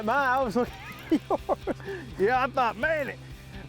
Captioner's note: laughter